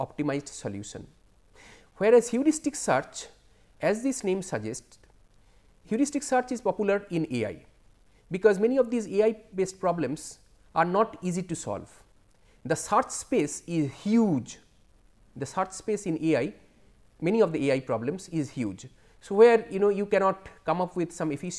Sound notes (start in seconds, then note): 11.3 lisp